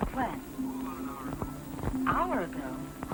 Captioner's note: on phone